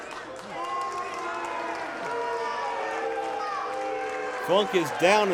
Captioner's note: crowd boos